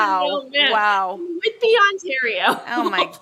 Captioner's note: laughs